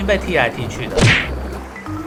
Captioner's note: kick sound effect